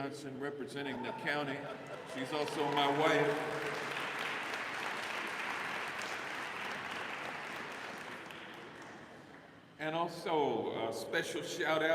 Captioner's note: applause